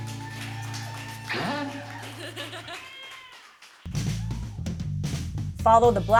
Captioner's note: laughs; cheers and applause; chord plays